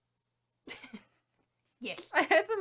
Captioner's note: chuckles